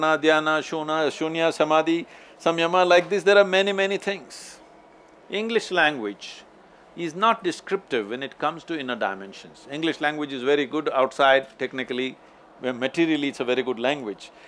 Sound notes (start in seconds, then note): none